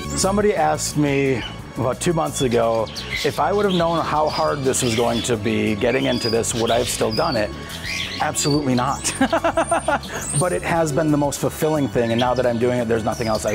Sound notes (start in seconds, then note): 8.3 laughs